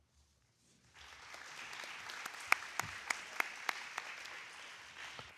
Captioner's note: audience applauds